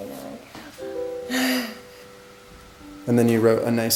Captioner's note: sighs